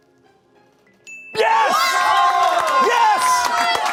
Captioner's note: bell dings; audience cheering